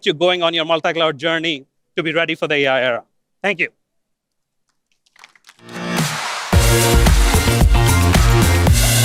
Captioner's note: applause